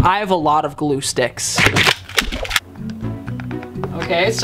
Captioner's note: whipping sounds; playful music